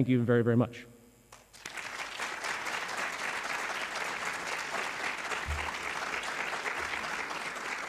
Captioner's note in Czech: Potlesk